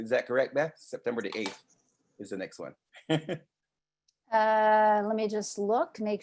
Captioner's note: laughs